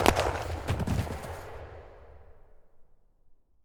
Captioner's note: guns popping; thumping